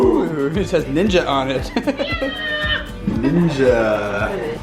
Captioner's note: laughs